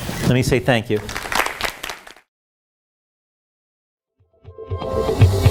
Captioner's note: audience claps; upbeat music